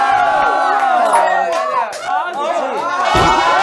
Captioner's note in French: Ils crient soudainement